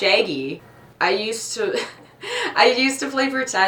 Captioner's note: laughs